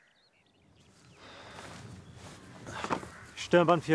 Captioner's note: man sighs